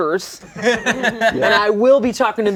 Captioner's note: laughter